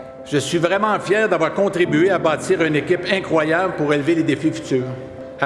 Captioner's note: none